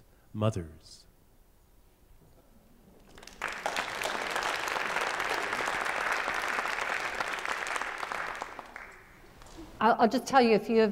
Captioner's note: applause